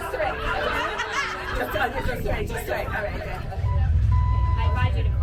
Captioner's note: laughter